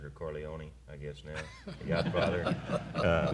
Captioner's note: laughter